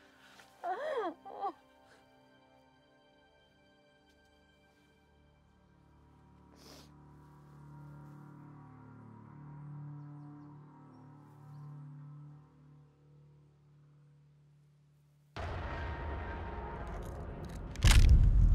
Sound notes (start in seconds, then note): 0.5 Jocelyn cries; 8.2 ominous music; 15.1 egg cracks